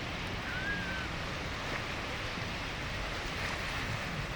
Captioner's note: water rushing